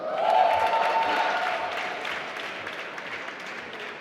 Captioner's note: applause